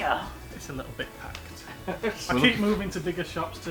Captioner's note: chuckles